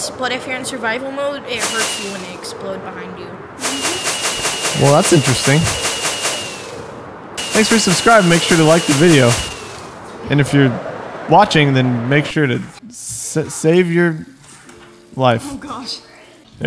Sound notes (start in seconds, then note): none